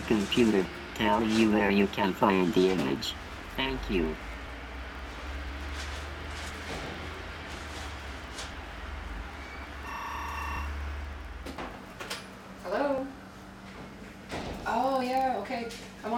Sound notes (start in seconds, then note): 9.8 telephone ringing